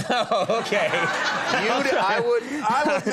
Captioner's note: audience laughing